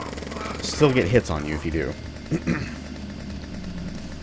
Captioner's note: clears throat